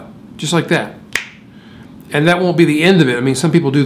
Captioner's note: snap